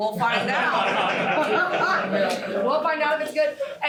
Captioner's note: laughter